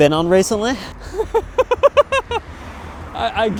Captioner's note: laughing